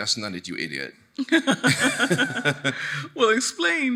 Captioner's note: laughing; chuckling